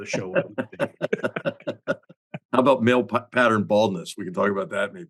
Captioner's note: laugh